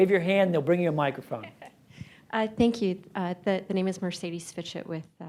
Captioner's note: laughs